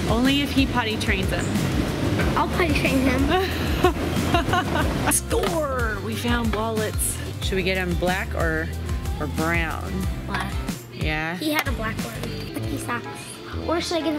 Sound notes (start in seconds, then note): 3.2 laughs